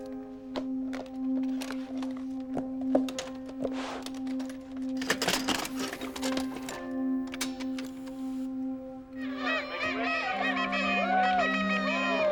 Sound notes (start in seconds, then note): 9.3 party noise; 10.8 whooping